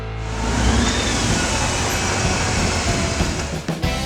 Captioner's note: motorcycle engine running